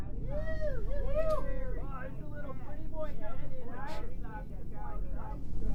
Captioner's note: jeering and yelling